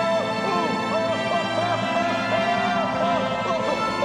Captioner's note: shouting